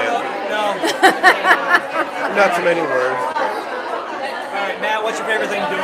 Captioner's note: laughter